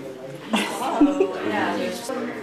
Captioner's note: laughing